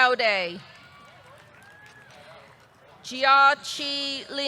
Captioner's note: audience clapping; audience cheering